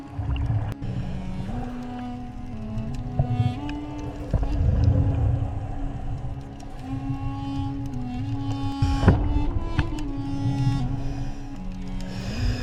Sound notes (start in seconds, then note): 0.0 dramatic music; 2.1 water splashes